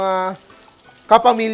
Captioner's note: sizzles